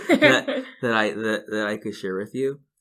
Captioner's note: laughing